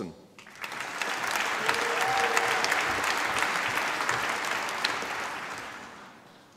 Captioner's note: applause